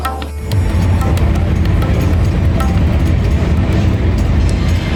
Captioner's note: train rattling